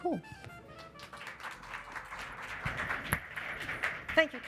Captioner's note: applause